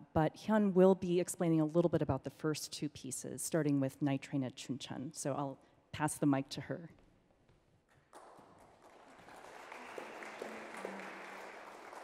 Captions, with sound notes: but Hyun will be explaining a little bit about the first two pieces starting with "Night Train to Chuncheon". So I'll pass the mic to her. (audience clapping)